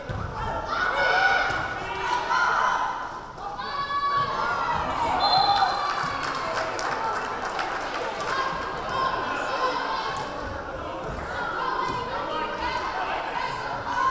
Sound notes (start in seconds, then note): 4.5 crowd cheering; 5.2 whistle blaring